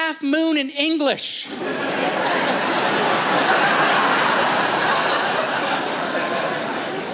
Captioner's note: laughter